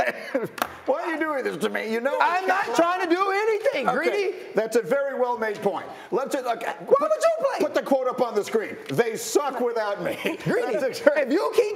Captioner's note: laughter